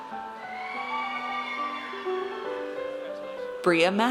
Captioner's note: audience cheers